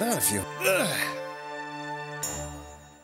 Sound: grunts

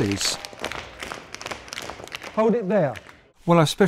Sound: tap dancing

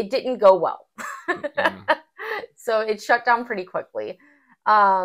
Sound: laugh

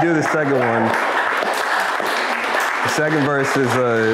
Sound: crowd applause

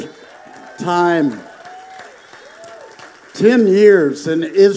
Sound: congregation applauding

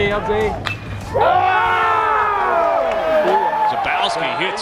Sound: crowd

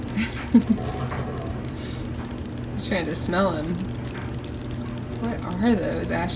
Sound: laughs

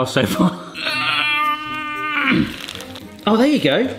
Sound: groaning

